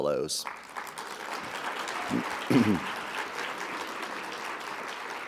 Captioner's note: audience applauding